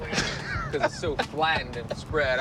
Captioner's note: laughs